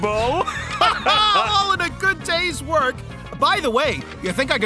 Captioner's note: both laugh